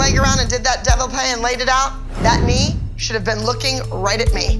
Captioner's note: french